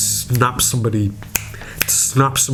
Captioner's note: finger snaps